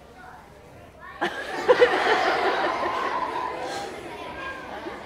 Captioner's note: audience laughing